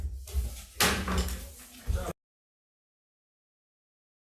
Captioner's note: gavel thudding